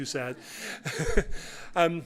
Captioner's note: laughter